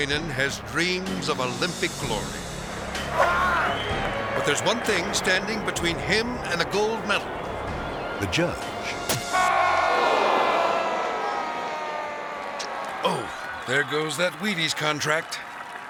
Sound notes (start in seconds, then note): 9.3 audience exclaiming; 9.4 judge yelling